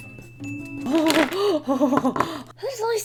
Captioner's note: hyperventilating in delight